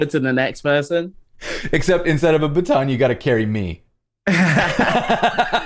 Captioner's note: laughter